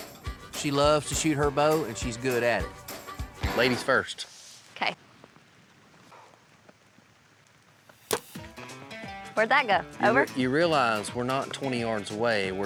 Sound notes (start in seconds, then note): 8.0 arrow shot